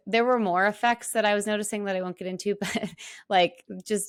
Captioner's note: laughs